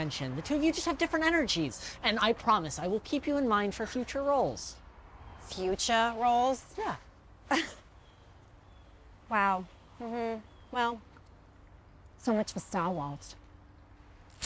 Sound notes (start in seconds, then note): 7.5 vivien scoffs; 14.2 lighter clicking